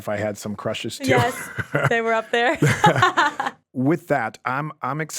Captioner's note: pair laughs